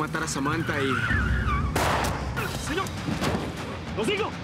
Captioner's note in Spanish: Chirrido de gomas; Disparos